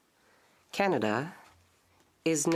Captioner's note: speaking French